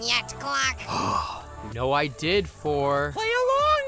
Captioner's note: sigh